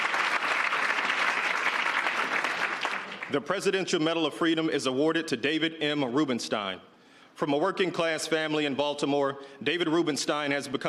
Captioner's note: applause